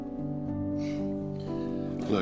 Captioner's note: sighs